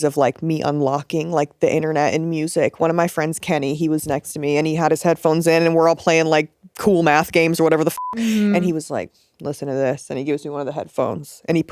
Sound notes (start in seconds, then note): 7.9 beep